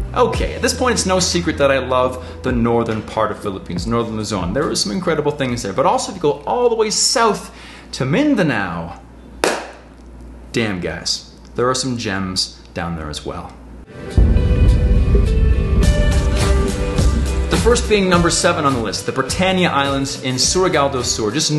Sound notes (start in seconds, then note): 9.4 claps; 13.9 inspirational music